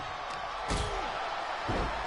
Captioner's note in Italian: Applauso